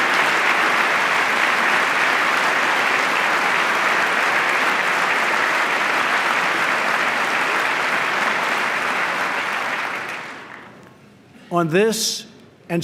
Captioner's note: applause